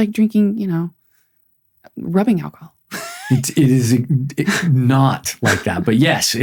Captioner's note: laughs